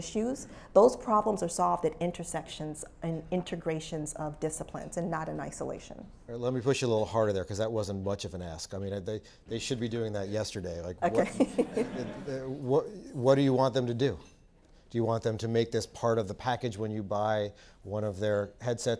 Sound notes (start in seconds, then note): 11.1 laugh